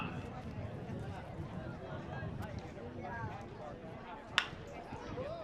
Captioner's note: chatter